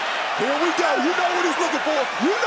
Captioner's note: cheers and applause